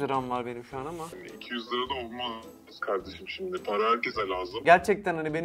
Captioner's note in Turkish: Telefon